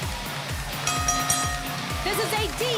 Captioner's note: bell ringing